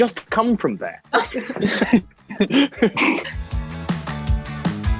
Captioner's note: all laughing; upbeat music